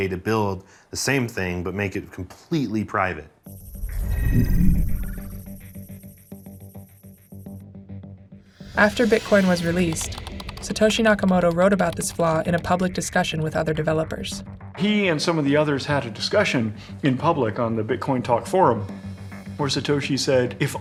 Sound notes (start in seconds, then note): 3.5 transition whooshes; 3.7 suspenseful music